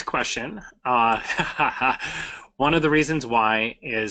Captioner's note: laughs